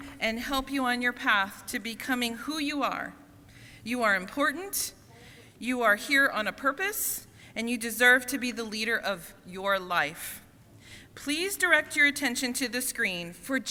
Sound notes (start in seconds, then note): none